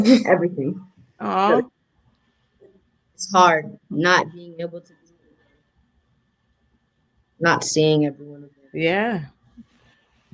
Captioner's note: sound cuts out